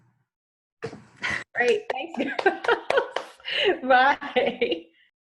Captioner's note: laughing